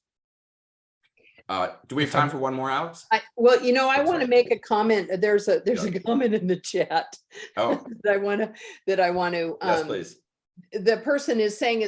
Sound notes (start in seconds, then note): 7.5 laughs